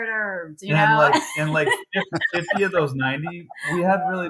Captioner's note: laugh